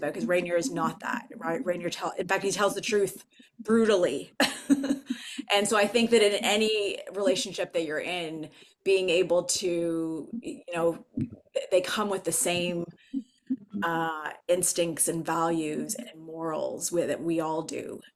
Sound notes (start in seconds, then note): 4.3 laughs